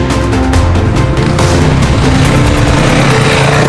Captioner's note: engine revving